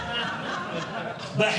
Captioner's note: audience Laughing